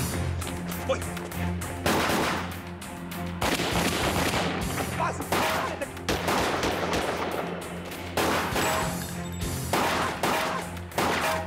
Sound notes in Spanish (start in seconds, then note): 3.4 Disparos